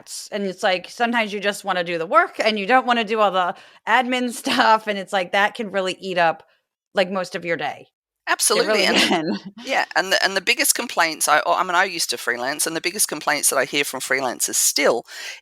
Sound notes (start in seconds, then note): 4.4 laugh